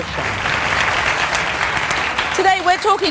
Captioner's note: audience applause